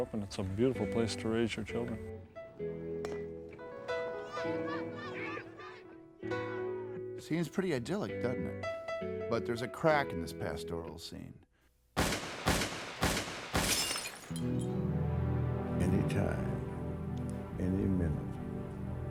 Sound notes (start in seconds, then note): 4.2 people cheering; 12.0 gun shots; 13.4 glass breaking